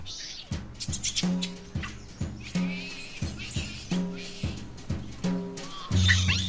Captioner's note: chattering